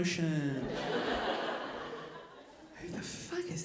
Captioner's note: audience laughing